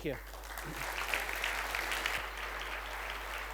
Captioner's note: applause